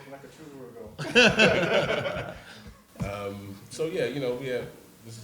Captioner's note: panel laughs